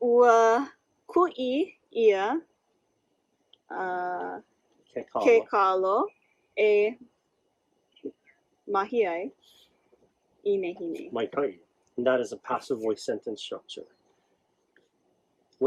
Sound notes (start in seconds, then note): 0.0 instructor talks in native language; 0.2 student 2 speaks in native language; 10.7 speaks in native language